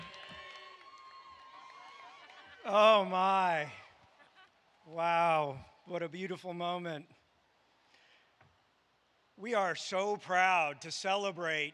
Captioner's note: cheers and applause